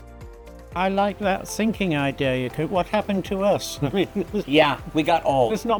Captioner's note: chuckling